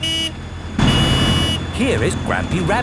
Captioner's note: honking